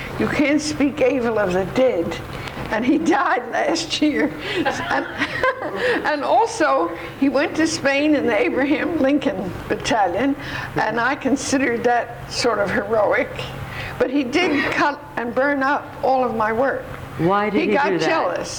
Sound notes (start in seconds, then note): 4.4 laughs